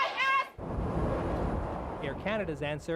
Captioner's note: shouting loudly; wind howling